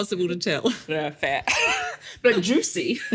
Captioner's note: laughs